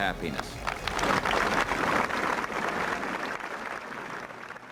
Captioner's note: crowd applauding